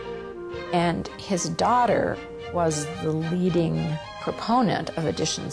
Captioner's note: voiceover